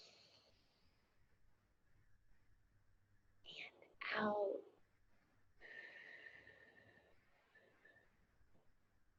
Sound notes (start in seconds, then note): 0.1 inhales heavily; 5.6 exhales heavily